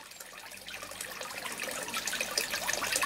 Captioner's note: trickling water